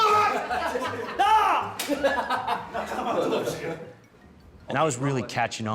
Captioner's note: laughter